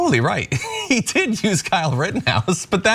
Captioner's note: laugh